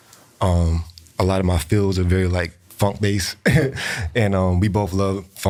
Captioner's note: laughs